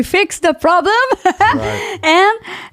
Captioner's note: laughing